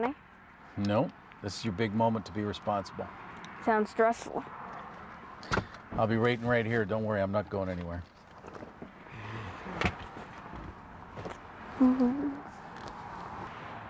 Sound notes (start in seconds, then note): 9.7 seat belt clicks; 11.8 Elvis humming